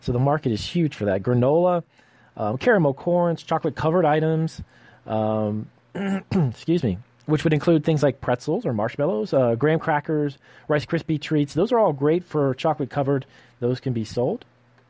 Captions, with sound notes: So the market is huge for that. Granola. Carmel corns, chocolate-covered items. (clearing throat) Excuse me. Which would include things like pretzels or marshmallows. Graham crackers, Rice Krispie Treats. Those are all great for chocolate-covered. Those can be sold.